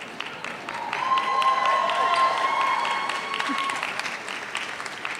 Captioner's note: audience cheers